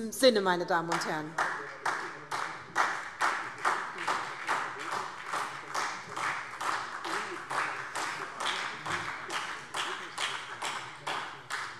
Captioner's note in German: Beifall SPD